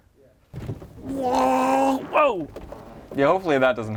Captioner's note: gurgles